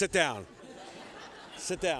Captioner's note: laughter